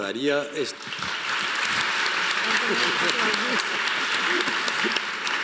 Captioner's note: speaking in foreign language; audience applauding